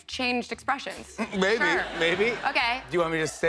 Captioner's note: laughter